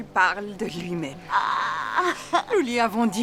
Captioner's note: laughing